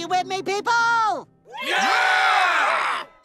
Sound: cheering

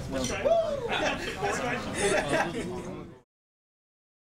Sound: crowd laughing

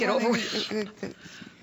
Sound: laughter

